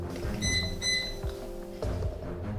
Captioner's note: suspense music; microwave setting button beeping